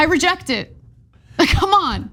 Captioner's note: laugh